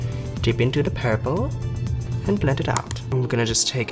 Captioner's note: fun little voice